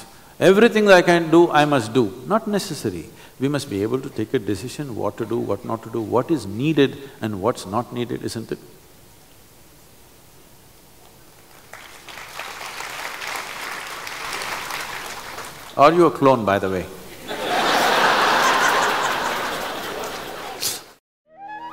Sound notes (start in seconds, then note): 11.4 applause; 17.2 laughs/Laughter